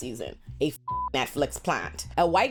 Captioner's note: beep